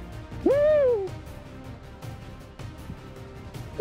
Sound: muffled screaming

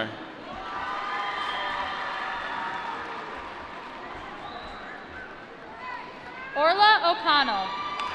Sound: applause

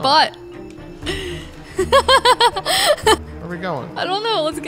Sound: laughs

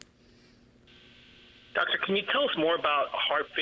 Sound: voiceover

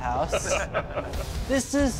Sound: laughter

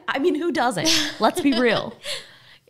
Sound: laughing

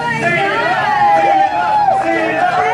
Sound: contestants cheer

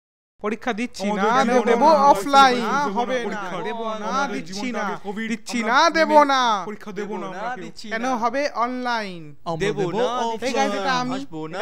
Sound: crowd chants and chatter

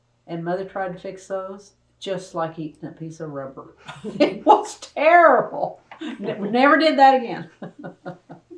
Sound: laughter

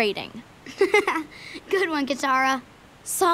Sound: chuckling

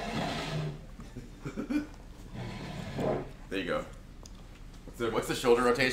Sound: laugh

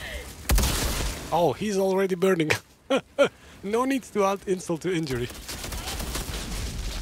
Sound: laughs

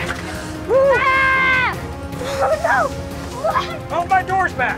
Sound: screams

